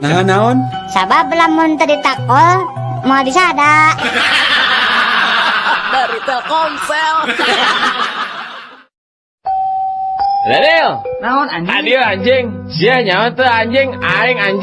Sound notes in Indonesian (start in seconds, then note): 8.6 tertawa